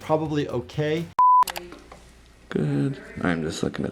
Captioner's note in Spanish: clic